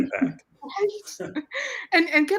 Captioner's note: chuckles